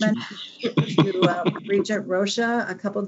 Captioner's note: laughter